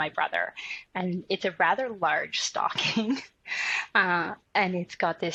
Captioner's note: laughs